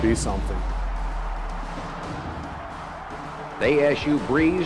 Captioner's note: crowd cheering